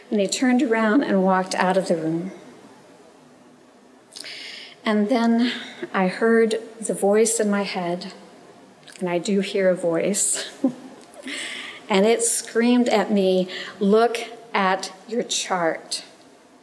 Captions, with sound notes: and he turned around walked out of the room and then I heard the voice in my head, and I do hear a voice (chuckles), and it screamed at me, "Look at your chart."